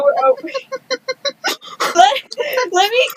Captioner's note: giggling